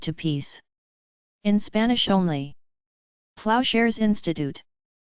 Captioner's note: in Spanish only